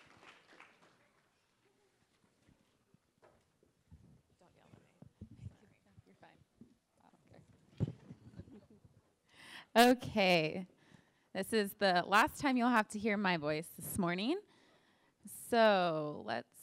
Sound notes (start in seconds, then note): 0.0 applause; 4.2 background Conversation